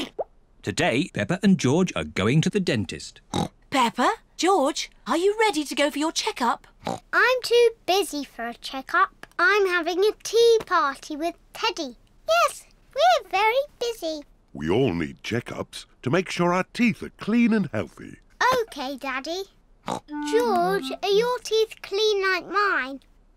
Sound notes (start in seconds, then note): 3.3 oinks; 6.8 oinks; 19.1 snorts